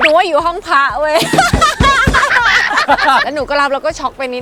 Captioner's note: laughing